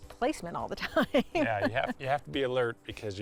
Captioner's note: laughs